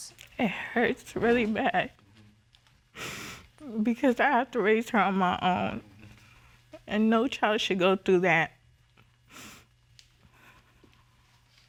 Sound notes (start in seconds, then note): 0.2 voice breaking; 2.9 sniffles; 9.3 sniffles